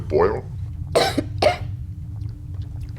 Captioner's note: surprised cough